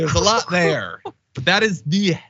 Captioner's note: laugh